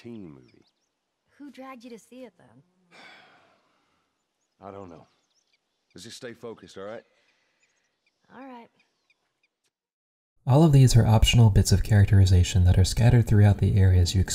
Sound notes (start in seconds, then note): 2.8 sighs